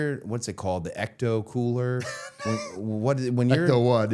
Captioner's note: Matt laughing